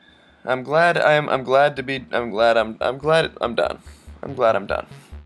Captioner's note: stammers